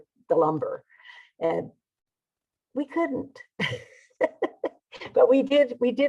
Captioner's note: laughing